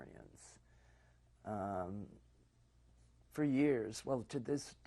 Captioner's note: pauses for 3 seconds